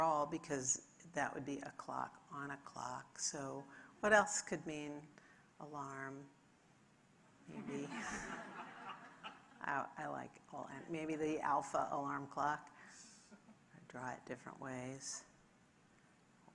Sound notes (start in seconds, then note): 7.6 audience laughing